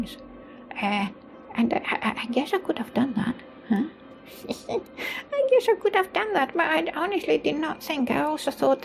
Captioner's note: chuckles